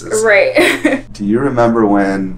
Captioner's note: laughs